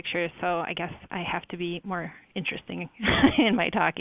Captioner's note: laughs